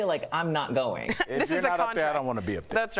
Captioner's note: laughter